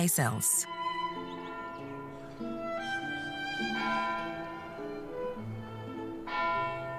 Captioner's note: gentle classical music; bell tolling